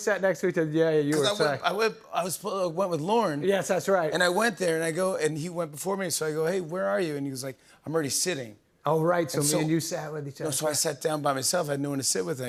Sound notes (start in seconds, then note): none